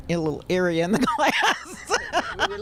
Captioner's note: laughs